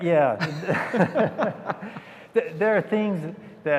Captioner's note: laughter